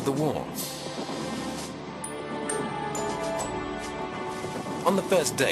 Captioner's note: light thoughtful music; heavy artillery booming